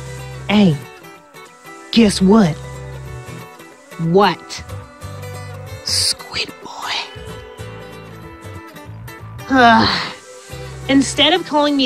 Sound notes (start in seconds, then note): 9.4 exasperated sigh